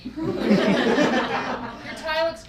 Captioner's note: laughing